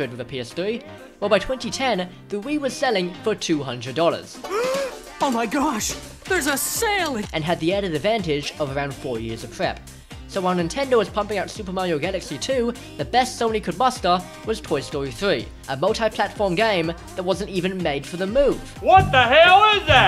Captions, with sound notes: Well by 2010, the Wii was selling for $200 *Gasp* "Oh my gosh, there's a sale' and had the added advantage of around 4 years of prep So while Nintendo was pumping out Super Mario Galaxy 2 the best Sony could muster was Toy Story 3 a multiplatform game that wasn’t even made for the Move 'what the hell is that!?'